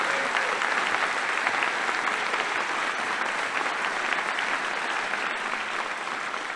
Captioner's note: applause